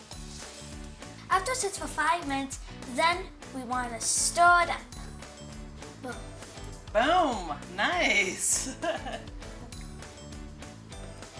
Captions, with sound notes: - After it sits for five minutes, then we want to stir it up. - Boom. - Boom! Nice! (laughs)